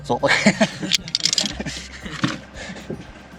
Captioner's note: laughter